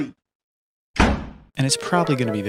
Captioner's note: slams door